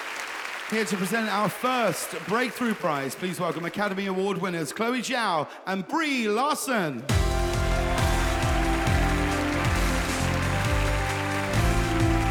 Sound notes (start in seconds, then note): 7.1 audience applauds